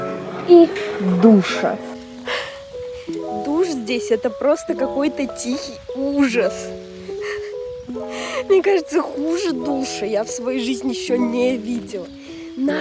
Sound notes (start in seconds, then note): 2.2 sigh; 7.2 hysterical laughter